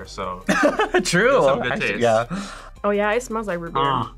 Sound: laughs

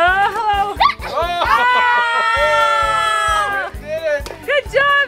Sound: everyone yelling

